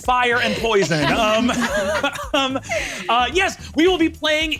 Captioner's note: laughs